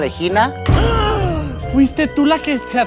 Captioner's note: very gay gasp